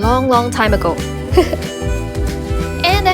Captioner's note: laughs